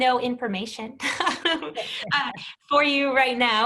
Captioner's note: chuckles